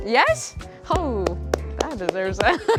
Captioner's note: applause; laughs